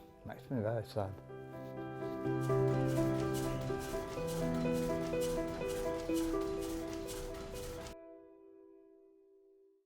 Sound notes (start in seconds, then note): 1.9 gentle music; 2.4 machine clattering